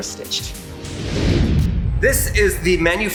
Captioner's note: air swooshes